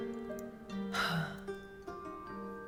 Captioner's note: sighs